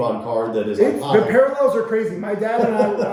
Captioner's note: laughing